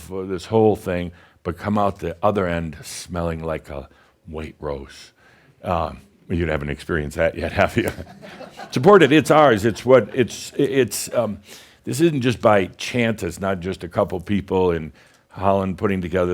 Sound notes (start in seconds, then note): 8.5 a few chuckles